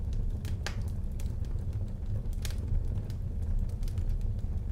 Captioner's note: logs crackling